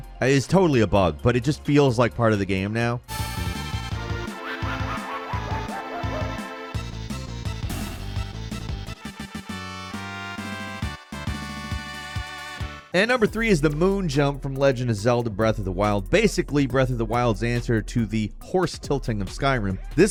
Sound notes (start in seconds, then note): 3.6 upbeat music; 5.7 enemy laughing; 9.0 upbeat music